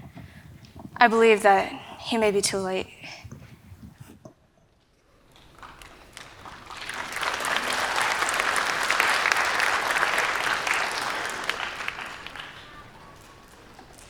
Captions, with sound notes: I believe that he may be too late. [Applause]